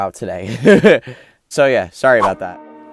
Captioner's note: laughs